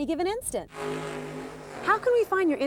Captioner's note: revs